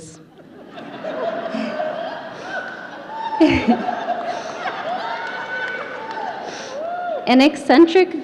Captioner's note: audience laughter